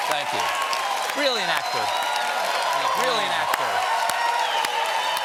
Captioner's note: cheers and applause